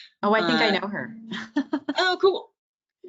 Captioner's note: laughing